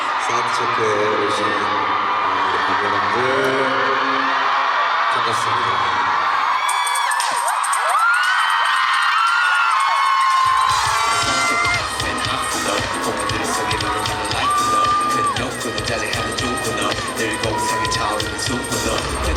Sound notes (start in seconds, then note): 6.4 The first sound check begins amid ARMY's cheers